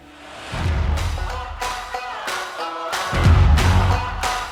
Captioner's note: clapping